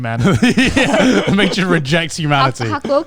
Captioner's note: all laughing